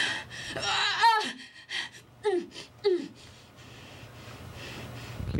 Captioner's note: grunting, Straining, Panting